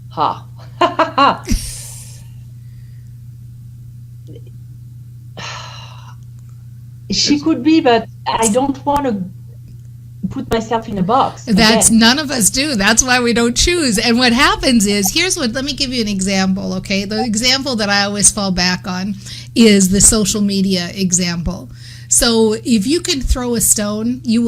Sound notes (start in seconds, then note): 0.6 laughter; 5.4 sighs